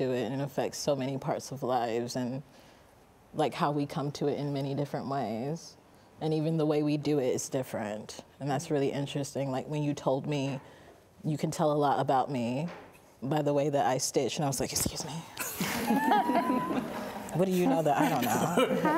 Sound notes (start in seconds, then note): 15.4 both laughing